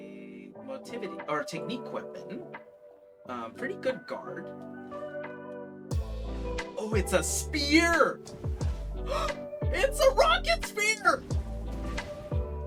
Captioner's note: gasp